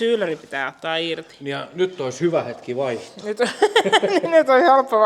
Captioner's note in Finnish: naurua